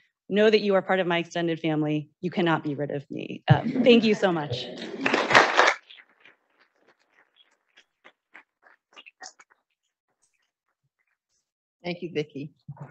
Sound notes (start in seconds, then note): 4.6 audience applauding